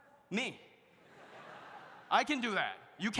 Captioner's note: audience laughs